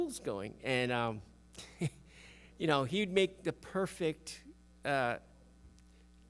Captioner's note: chuckles